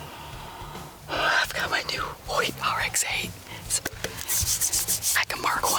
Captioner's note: rubbing bow